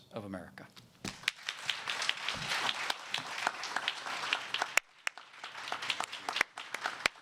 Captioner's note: applause